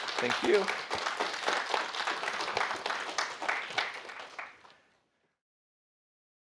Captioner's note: audience applauds